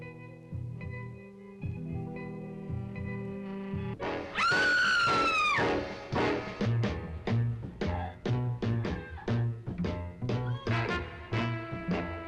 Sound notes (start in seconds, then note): 4.3 Vicki screams; 7.1 dramatic music; 7.9 Vicki grunting